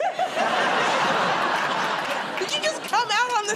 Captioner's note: laughter